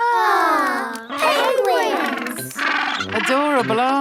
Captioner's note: penguins chatter